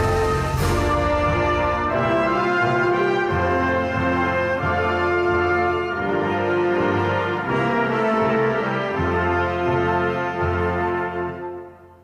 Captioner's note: applause